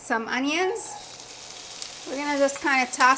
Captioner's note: onions sizzling